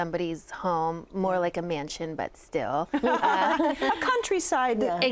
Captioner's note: laughing